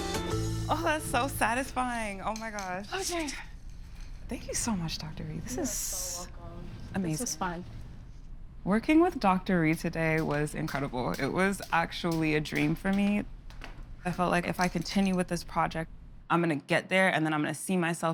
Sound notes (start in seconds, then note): 2.1 breathless